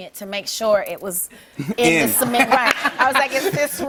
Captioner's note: laughter